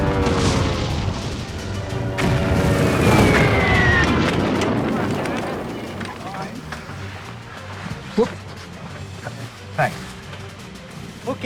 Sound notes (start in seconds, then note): 0.0 aircraft engine roars; 2.9 missile shrieks